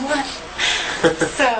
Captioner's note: laughs